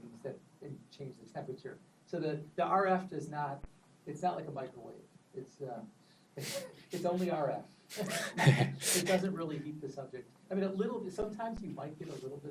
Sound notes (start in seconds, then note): 6.3 laughs